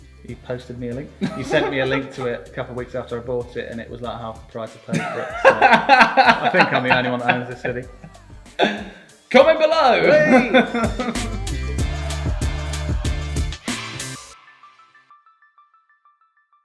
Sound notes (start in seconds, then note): 1.2 chuckling; 4.9 laughing